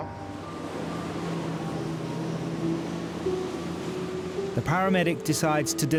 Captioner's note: engine rumbling